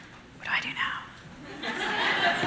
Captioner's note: whispers; audience laughs